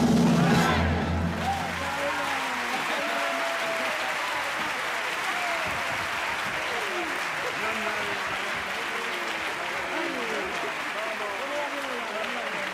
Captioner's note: applause